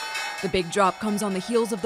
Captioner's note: nats of bell